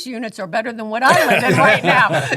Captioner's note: laughing